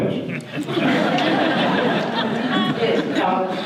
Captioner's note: audience laughter